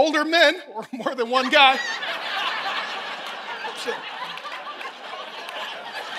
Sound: congregation laughing

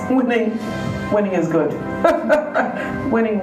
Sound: laughing

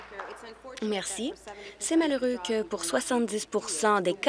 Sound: applause

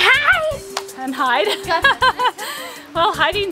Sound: laughing

